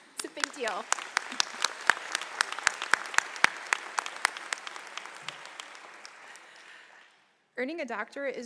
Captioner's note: applause